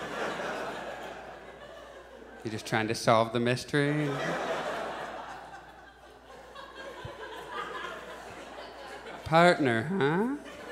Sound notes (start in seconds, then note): 0.0 audience laughs; 4.0 audience chuckles